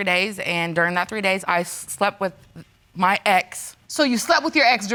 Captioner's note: stammers